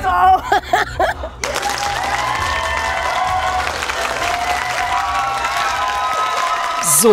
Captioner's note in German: clapping, cheering